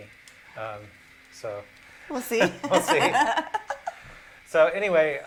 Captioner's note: laughter